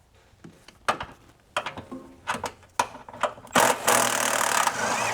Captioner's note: drilling